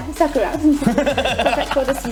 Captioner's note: laughing